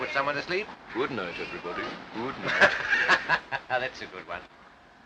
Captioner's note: laughing